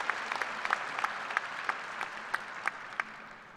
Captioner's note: applause